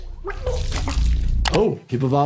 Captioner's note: vomit splatters; retches